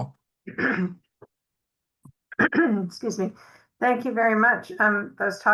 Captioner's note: clears throat